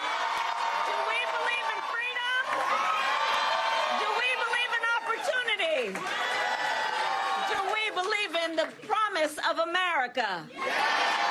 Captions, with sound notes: PHONE CALLS TO MAKE, AND AN ELECTION TO WIN! >> [ APPLAUSE ] ARE YOU READY TO GET TO WORK?